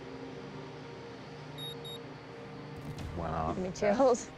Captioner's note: beeping